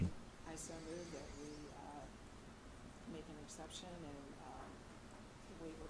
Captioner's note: speaking off mike